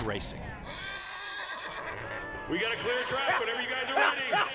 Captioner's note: horse neighing